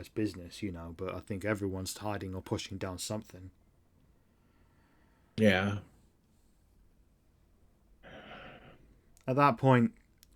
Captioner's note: sighs